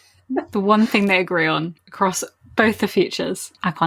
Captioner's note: laughs